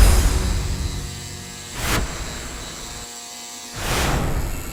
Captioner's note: buzzing